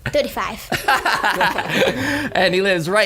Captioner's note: laughing